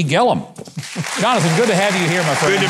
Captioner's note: audience applauding